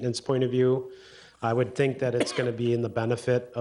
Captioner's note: attendee coughs